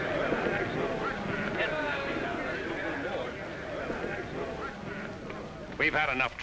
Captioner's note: men murmuring